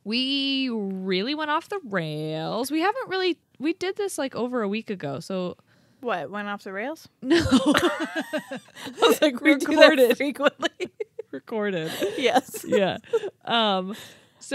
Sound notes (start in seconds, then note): 7.3 laughing